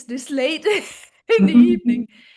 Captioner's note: laughs